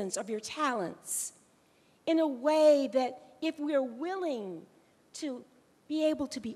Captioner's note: none